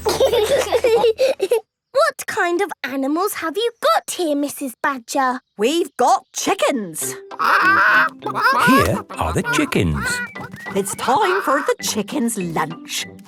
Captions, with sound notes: - (laughing) What kind of animals have you got here, Mrs. Badger? - We've got chickens! - (clucking) - Here are the chickens. - It's time for the chickens' lunch.